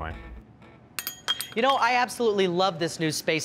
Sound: glasses clinking

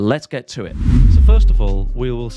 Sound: screen swooshing

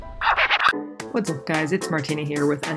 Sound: scratches

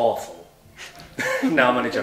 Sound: laughter

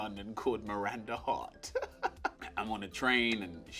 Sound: laughs

